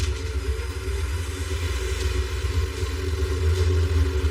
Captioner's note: vehicle approroaching